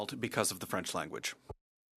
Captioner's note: speaking French